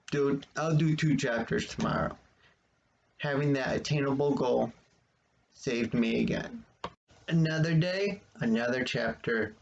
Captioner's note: click